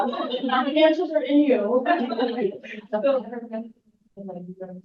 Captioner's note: audience laughs